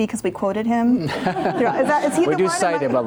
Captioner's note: crowd laughing